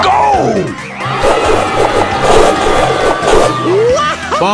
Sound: rock Trowing ruckus

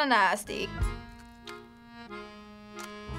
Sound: crunching

